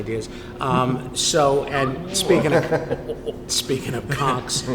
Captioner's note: laughing